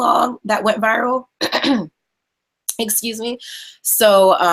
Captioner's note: clears throat